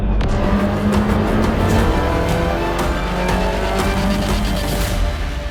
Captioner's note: car engine revving